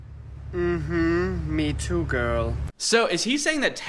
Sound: blabs loudly; hums

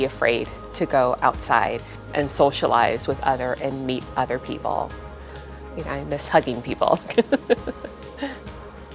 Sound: laugh

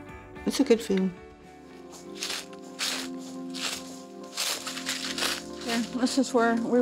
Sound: leaves rustling underfoot

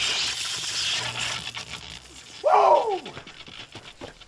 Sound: electricity buzzing

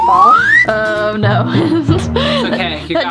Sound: laughs

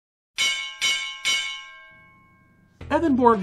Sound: bell ringing

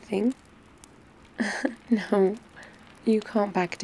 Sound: laughs

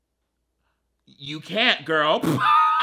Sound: laughs

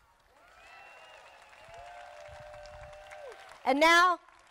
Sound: crowd applauding

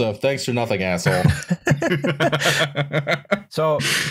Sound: laughter

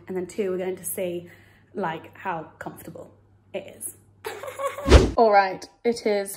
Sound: chuckles

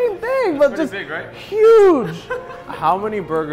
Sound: laughs

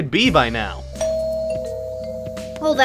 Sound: doorbell rings

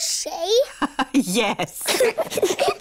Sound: both giggle; laughs

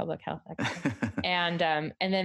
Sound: laughs

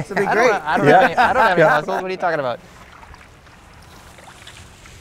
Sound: said jokingly

